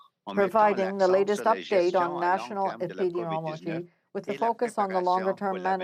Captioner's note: speaking french